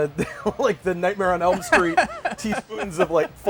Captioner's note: laughter; laughs